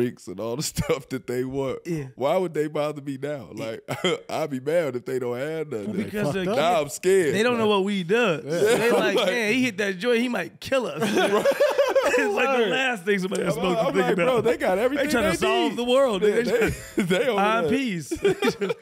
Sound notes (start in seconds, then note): 3.6 chuckles; 11.0 laughing